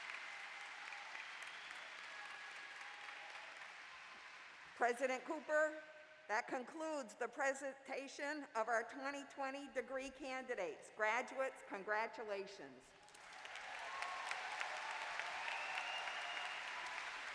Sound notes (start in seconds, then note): 3.0 applause